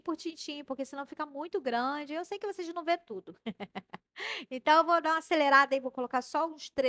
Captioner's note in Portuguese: risadas